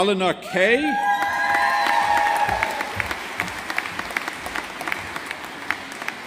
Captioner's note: audience applauding